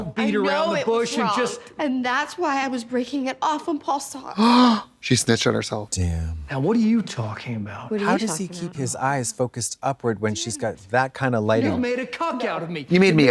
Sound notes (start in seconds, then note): 4.3 Trixie gasps